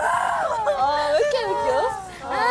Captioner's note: crying